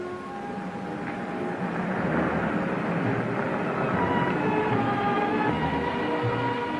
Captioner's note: pleasant music; car whirring